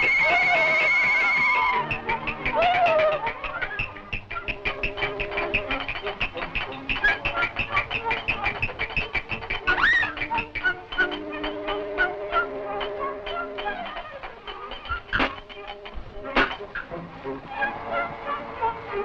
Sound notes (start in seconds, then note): 5.0 footsteps clicking; 7.3 upbeat music continues; 11.5 hoist clicking